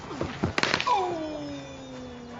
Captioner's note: bat cracks against ball